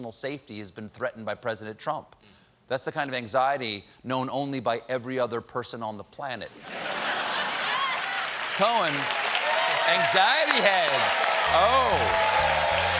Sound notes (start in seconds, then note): 9.2 cheers and applause; 9.2 laughter